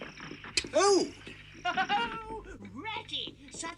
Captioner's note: Toad laughs